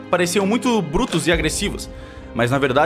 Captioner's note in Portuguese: none